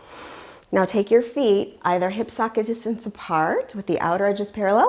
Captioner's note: deep breathing sounds